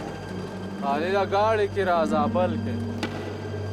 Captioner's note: foreign language